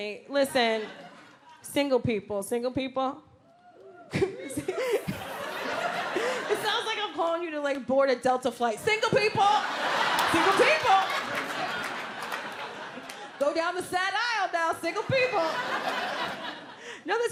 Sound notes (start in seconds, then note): 3.4 scattered whoops; 3.9 laughs; 9.3 audience laughs; 14.8 audience laughs